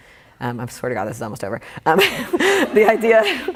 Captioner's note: laughing